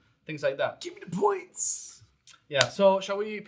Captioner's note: speaking faintly